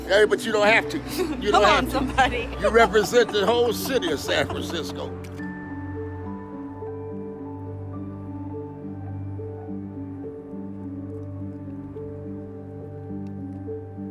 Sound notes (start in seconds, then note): 1.1 laughs; 5.4 camera shutter snaps; 6.3 gentle music